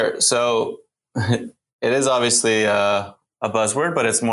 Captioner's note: chuckles